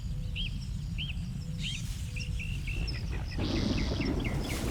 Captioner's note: jungle sounds